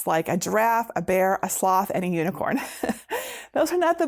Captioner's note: laughing